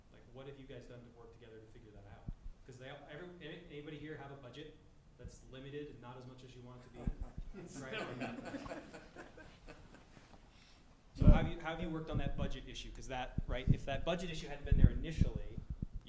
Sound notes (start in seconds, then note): 6.9 laughter